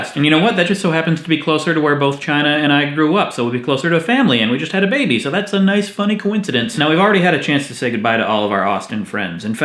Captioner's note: none